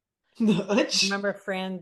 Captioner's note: laughs